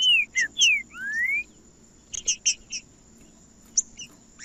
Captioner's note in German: trinca ferro cantando